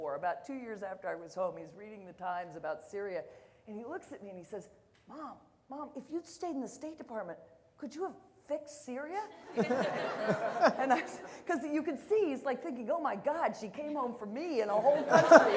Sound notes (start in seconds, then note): 9.4 audience laughter